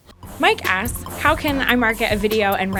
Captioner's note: voiceover